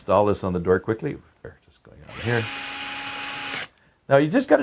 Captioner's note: drill whirring